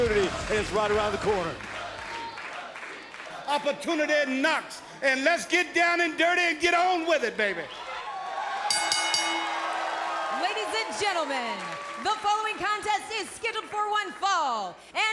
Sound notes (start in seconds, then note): 4.0 crowd cheering; 8.6 bell ringing